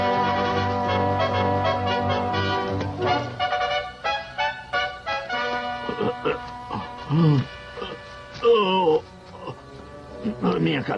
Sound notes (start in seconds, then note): 5.2 grunting